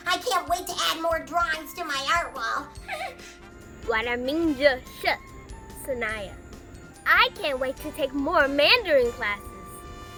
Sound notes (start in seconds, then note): 2.8 laughter; 4.0 speaking Mandarin